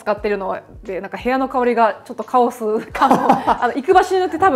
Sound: laughter

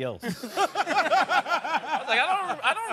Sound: laughing

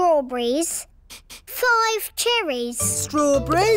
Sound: sniffs

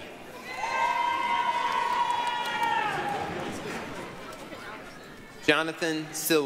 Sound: applause, cheering

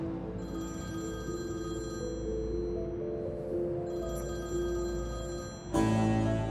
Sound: the phone is ringing

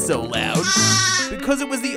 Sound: bleating

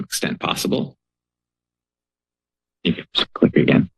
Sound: pause

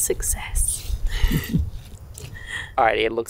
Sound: giggles

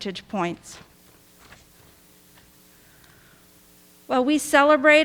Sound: pages rustling

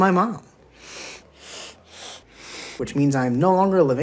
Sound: excessive nose-based breathing

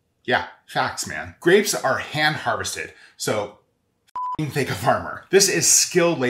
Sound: beep

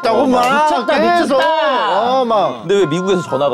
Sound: excited

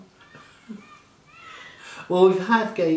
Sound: laughing

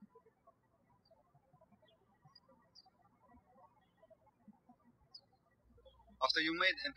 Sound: birds chirping

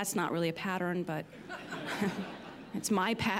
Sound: laughter

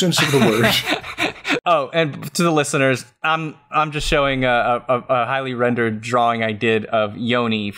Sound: laughs

